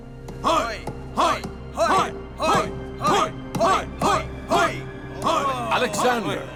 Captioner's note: all cheering